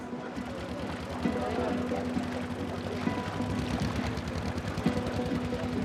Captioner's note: boat motor rumbling